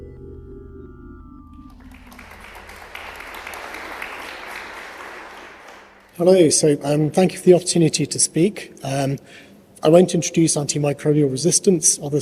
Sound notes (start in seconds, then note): 1.6 applause